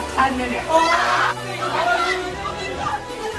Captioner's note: screaming